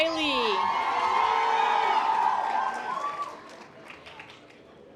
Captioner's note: audience applause